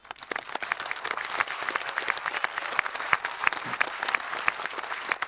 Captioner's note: applauds; audience applauding